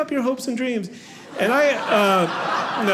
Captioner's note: audience laughing